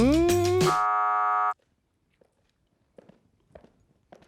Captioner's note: buzzer ringing